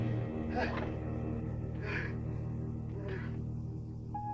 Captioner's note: dog whimpering; David gasping